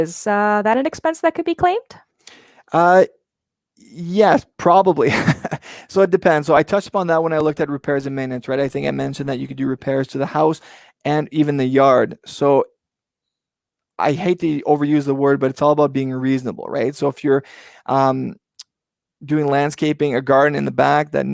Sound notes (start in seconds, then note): 5.1 laughs